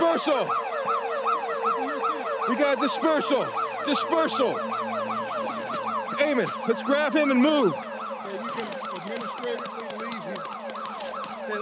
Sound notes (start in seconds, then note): 4.5 alarms ringing